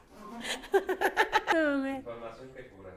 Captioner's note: laughter